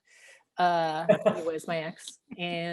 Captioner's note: laughing